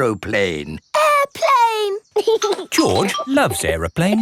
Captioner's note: giggling